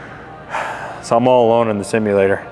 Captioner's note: sighs